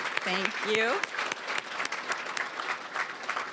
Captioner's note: applause